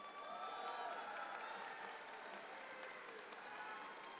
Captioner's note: audience applauds